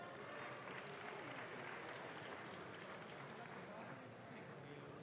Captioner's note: audience claps